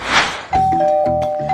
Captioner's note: ding-dong